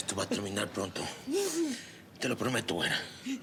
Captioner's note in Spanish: sollozos